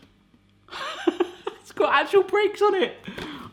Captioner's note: laughs